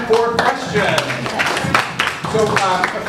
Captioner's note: audience applauds